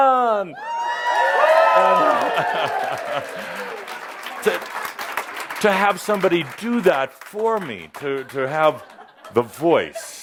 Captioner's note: much audience approval and applause